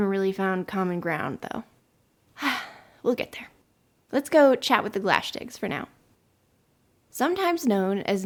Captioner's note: sigh